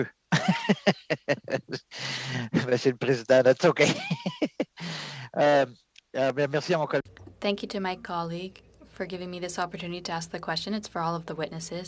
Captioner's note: speaking French